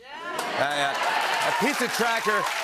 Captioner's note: cheers and applause